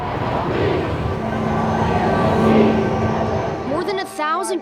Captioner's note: crowd chanting